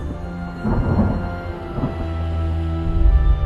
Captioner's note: distant thunder